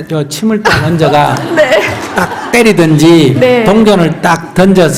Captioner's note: questioner / Audience Laughter